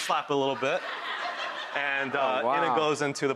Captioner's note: audience laughing